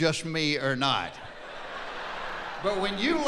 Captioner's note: laughing